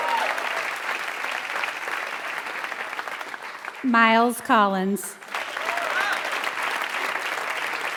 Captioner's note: applause